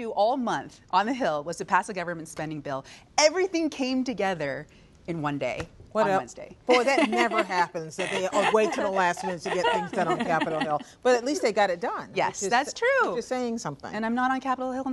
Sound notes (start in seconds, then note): 11.4 laughter